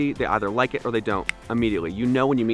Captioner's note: snaps fingers